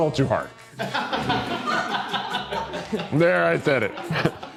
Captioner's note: crew laughing